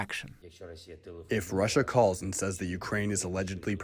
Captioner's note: through translator